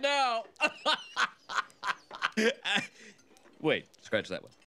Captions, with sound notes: *laughs even more* ... Wait, scratch that one.